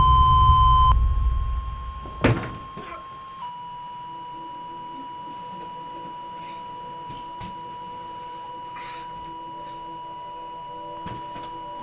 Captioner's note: radio Buzzing